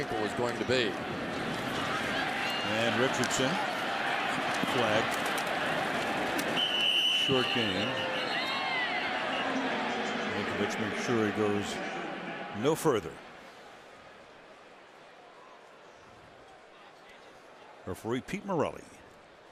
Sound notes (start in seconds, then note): 6.5 whistle; 9.9 pa announcement